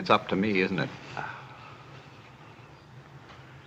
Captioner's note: Adam groaning softly